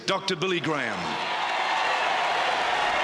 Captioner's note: loud applause